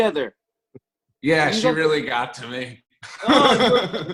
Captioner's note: laughter